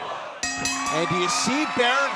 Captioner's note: bell ringing